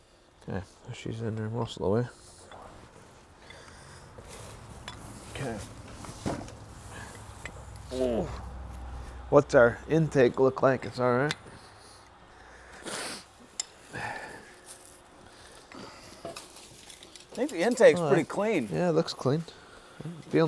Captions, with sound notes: Okay, she's in there most of the way. - Okay. Ooh. - What's our intake look like? It's all right? (man sniffs) - I think the intake's pretty clean. - Yeah, it looks clean.